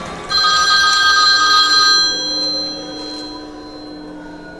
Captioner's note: telephone rings